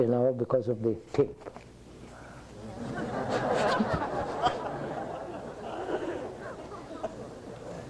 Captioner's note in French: Rires